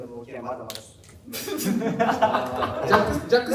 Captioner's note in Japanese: 笑い声